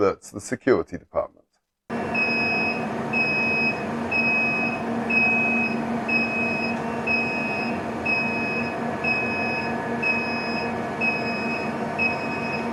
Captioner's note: beeping